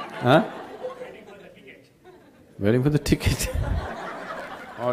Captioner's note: laughter; laughter